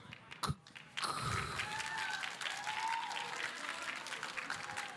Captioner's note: audience applauding